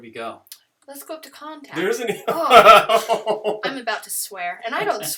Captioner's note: laughter